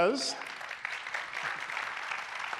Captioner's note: applause